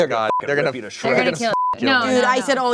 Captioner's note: beep